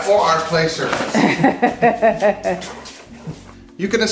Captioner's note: woman laughs